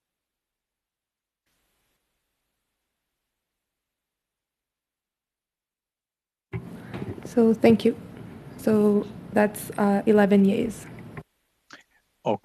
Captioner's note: silence